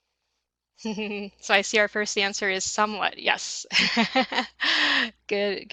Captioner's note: laughs